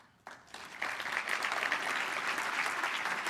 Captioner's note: applause